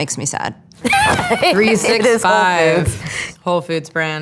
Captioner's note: chuckles